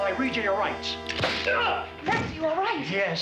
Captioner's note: groans